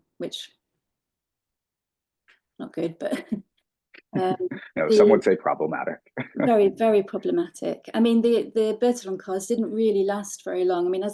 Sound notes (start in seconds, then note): 4.0 laughing